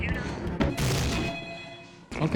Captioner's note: door slams into the wall